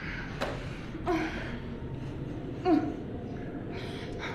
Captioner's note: grunting